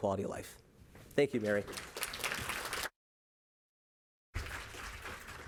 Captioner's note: audience applauding